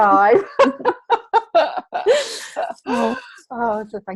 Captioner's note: laughing